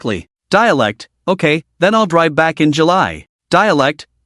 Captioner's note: dialect